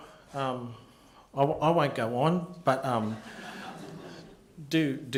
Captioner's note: laughter